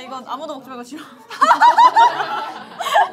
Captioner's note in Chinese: 笑喷